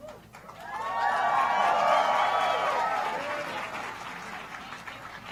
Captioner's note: applause